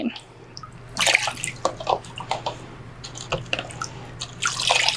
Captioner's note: pours water